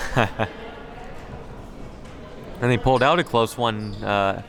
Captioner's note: laughs